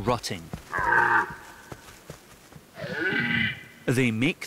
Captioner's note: red deer calling